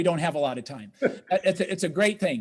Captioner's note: laughs